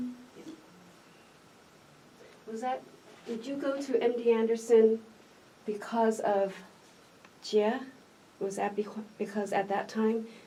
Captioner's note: sister, in Mandarin